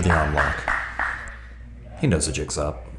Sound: spectator applauds

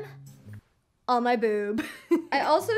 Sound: chuckles

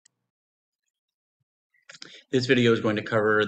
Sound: silence

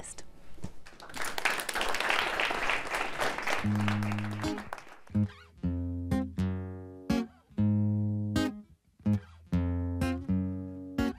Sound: applause

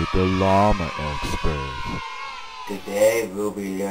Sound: crowd of kids cheering

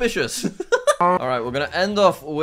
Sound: laughs

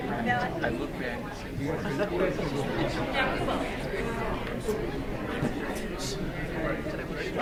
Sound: speaking faintly; speaking faintly

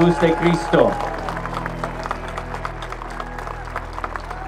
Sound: applause

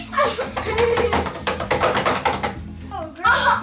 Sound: banging

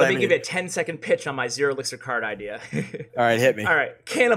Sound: laughs

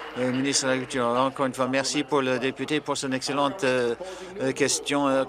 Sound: applause

